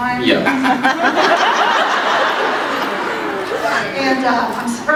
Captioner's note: laughs